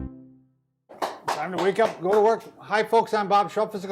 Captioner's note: claps